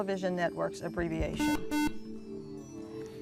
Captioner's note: buzzer